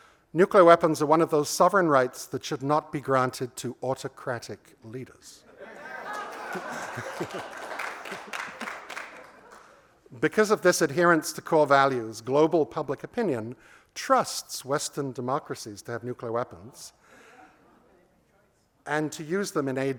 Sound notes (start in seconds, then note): 5.6 laughter and applause